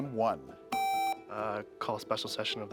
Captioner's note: buzzer beeps